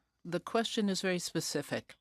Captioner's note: speaking in french